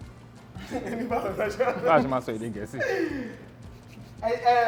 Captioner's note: laughs